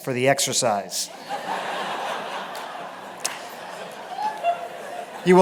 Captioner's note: laughter